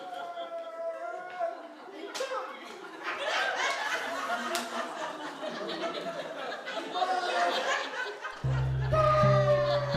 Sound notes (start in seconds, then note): 4.8 laughter